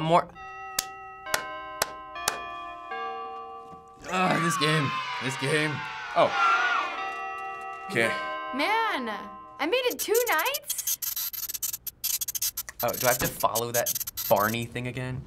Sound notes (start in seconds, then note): 0.3 in game: clock chimes; 4.0 in game: children cheer; 9.9 in game: static buzzing